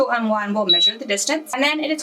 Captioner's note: machine beeps